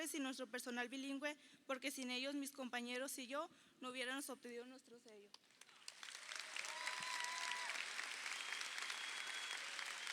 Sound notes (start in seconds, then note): 5.6 crowd applauding